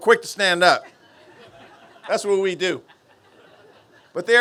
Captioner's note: laughter